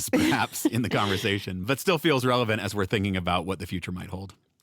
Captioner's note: laughs